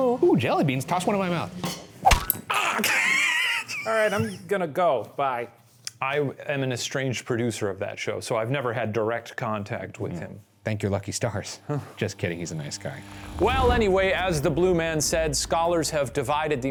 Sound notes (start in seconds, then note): 2.5 laughing